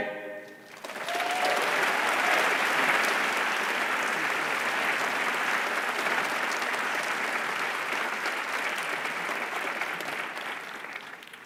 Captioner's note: applause